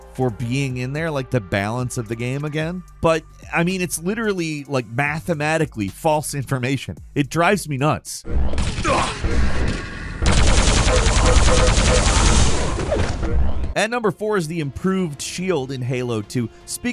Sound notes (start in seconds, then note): 8.5 guns banging